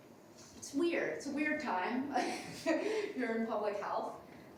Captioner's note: laughs